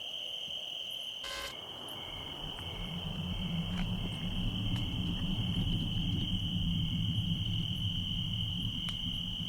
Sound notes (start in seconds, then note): 1.4 static hissing; 4.3 suspenseful music